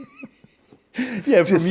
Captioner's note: laughing